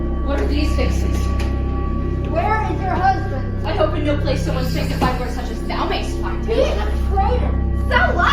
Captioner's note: cries and screams